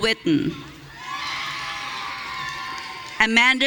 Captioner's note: audience cheering